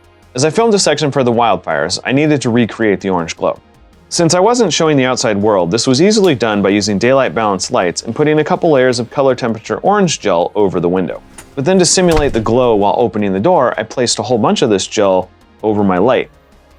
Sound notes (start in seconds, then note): 11.1 door closes